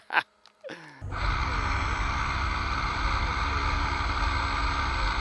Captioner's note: laughs; engine revving